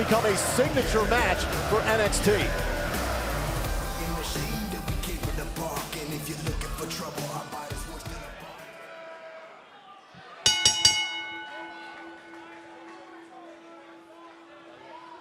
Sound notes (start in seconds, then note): 2.4 bell ringing